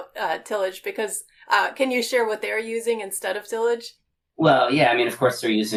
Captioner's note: laughing